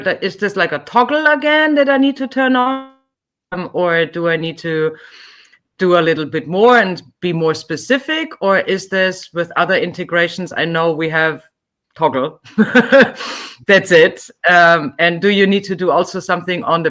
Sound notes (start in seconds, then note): 12.5 laughing